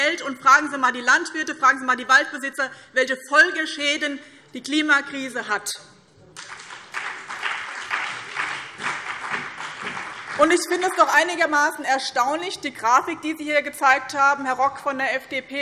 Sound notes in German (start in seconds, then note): 6.3 Beifall BÜNDNIS 90/DIE GRÜNEN, CDU und vereinzelt SPD